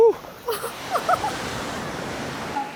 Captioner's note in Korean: 웃음